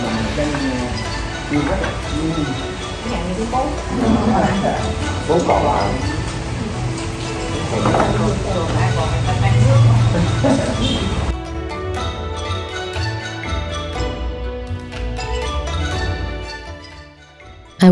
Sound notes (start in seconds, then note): 4.1 everybody laughed; 10.4 everybody laughed